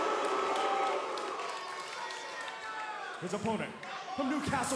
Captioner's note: cheers & boos